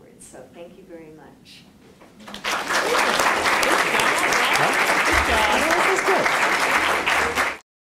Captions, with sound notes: So thank you very much. [APPLAUSE]